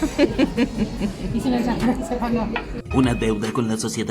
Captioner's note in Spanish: risas